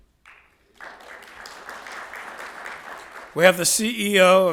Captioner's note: audience applauding